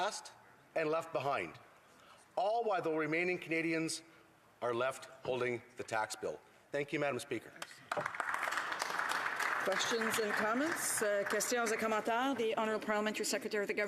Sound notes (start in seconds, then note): 10.6 some Applause